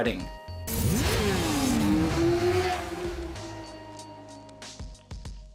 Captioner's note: motorcycle engine roars